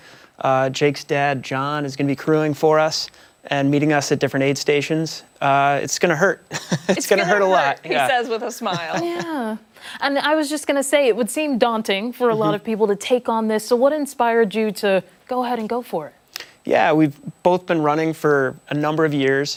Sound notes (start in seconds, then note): 10.2 laughter